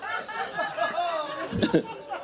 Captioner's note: audience laughing